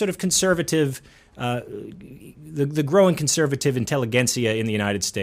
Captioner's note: speaks foreign language